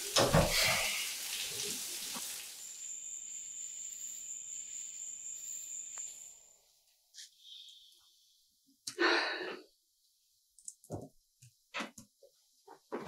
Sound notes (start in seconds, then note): 0.5 Oscar sighing; 2.1 crickets chirping; 8.9 Kate sighing; 9.0 keyboard clicking